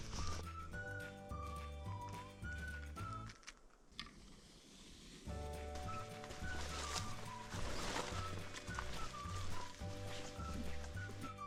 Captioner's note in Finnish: askelten ääniä